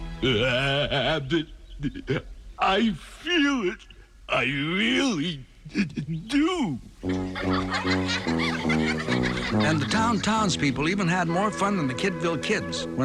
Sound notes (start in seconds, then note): 7.0 laughing